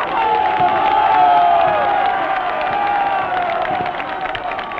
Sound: yelling and cheering

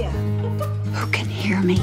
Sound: giggles

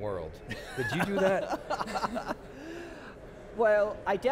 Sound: laughter

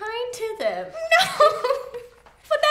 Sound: laughs

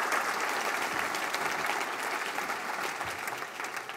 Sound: applause

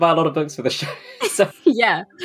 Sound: laughing; laughs

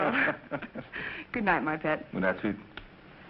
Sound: laughter

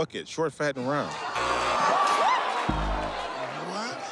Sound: laughing; buzzer rings

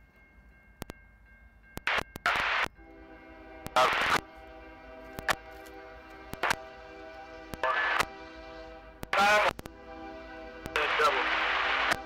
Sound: radio chatter

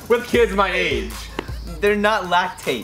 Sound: laughs

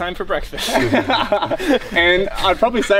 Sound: men chuckle

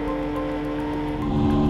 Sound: car engines

